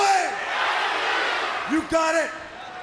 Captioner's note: crowd cheering